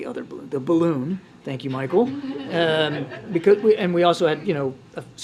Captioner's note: laughter